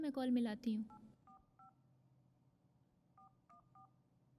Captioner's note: phone beeping